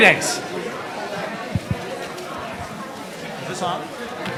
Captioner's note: audience murmuring